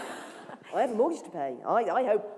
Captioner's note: laughter